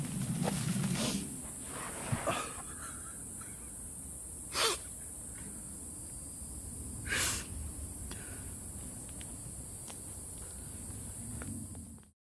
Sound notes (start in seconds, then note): 4.0 sobs